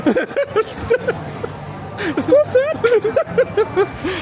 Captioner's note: laughing